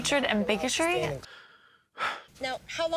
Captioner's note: sighs in what the fck